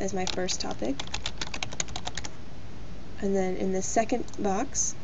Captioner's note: typing